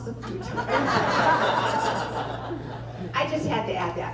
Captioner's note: laughter